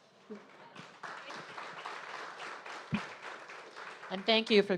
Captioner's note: audience applauding